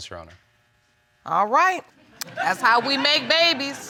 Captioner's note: audience laughing